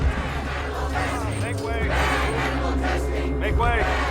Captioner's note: crowd chants